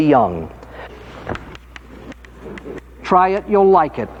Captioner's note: chalk tapping